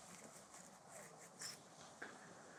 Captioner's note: ASMR inducing beard scratching